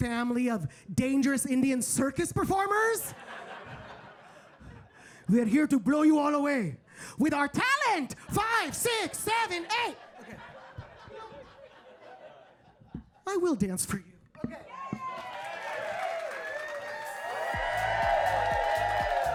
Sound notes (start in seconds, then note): 3.1 audience laughing; 10.7 audience laughing; 14.7 audience cheering and applauding